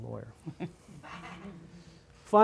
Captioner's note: laughter